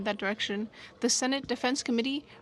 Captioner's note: speaking French